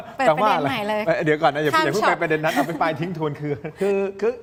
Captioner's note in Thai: เสียงหัวเราะ